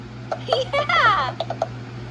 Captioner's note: Tomoko cheers